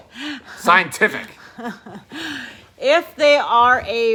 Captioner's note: chuckles